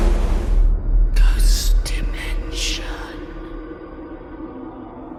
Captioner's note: ghostly Voice